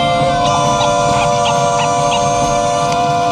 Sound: meows

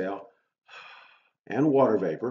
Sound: loud exhale

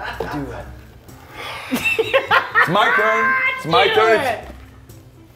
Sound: laugh

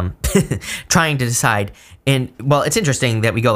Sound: chuckling

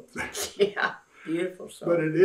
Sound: laughs

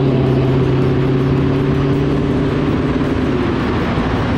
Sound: car accelerating

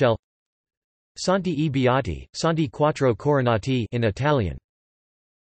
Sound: in Italian

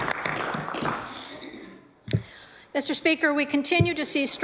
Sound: applause

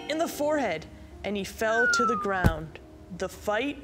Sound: Goliath crashing

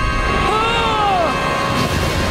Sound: groaning

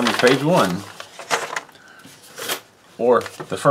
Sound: paper rustles

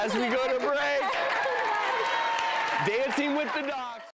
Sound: applause

